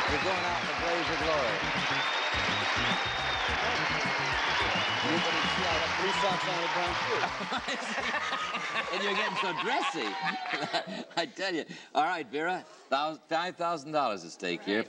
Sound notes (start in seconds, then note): 2.3 applauding; 7.0 laughing